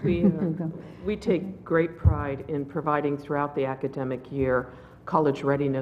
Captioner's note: laugh